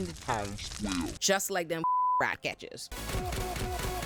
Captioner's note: beep